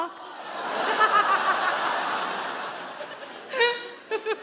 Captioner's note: audience laughing